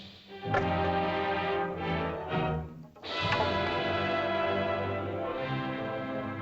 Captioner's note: suspenseful music; triumphant music; staffs clatter; triumphant music